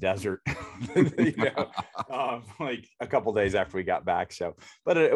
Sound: both laughs

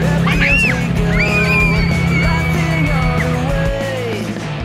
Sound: giggling

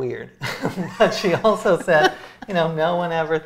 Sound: both laughing

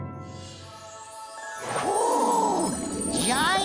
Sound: gasping

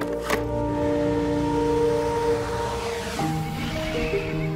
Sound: cashier machine beeps; robotic engine roars; soft piano music

